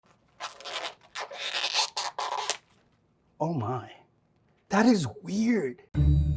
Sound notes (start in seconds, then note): 0.4 fruit squeaking